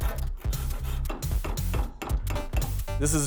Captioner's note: hammering